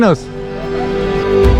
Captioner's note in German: lacht